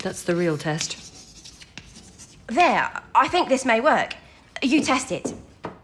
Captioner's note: scribbling on the blackboard